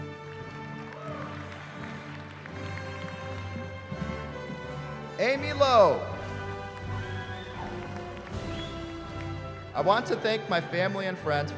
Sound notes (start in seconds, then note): 0.0 applause; 6.2 cheering